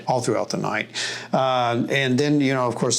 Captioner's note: none